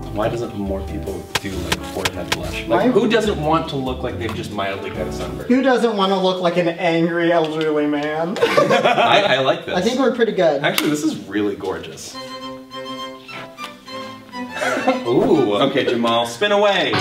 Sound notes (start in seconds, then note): 8.4 laughter; 15.8 electric guitar